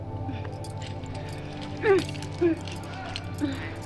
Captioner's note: grunts and groans